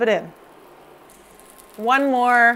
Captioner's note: fish sizzling